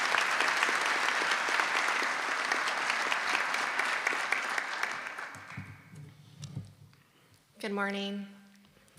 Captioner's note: applause